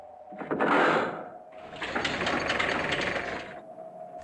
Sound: loud gate opening

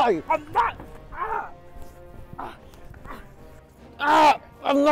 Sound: Daryl screaming

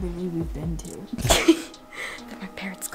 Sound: laughs

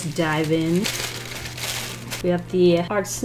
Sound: paper rustling

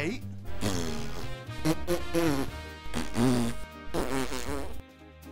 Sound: fart noises

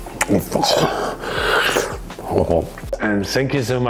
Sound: gasps

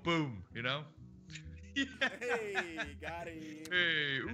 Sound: laugh

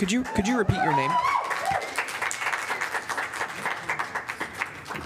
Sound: applause

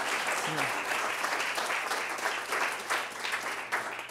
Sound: applause

